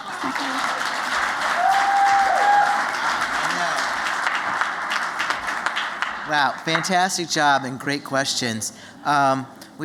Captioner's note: applause